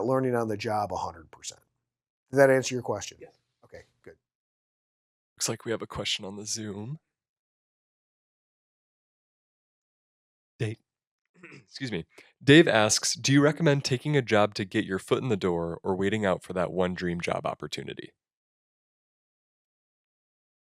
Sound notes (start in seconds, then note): 11.4 clears throat